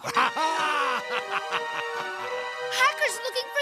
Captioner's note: evil laugh